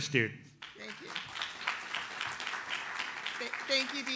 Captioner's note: audience applauds